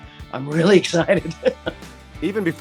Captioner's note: laughs